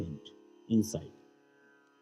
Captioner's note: silent